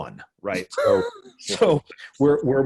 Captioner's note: everyone laughing